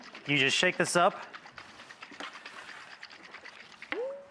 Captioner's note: liquid shaking